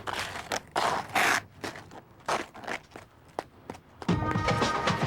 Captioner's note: skates scraping